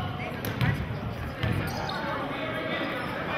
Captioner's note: yelling